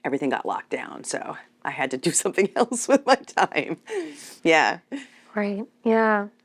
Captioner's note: chuckles